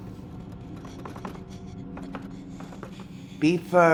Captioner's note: labored breathing